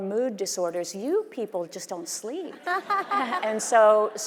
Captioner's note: audience laughing